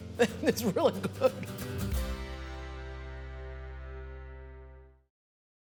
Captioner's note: chuckles